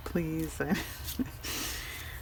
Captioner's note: laughs